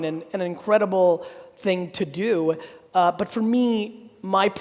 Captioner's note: none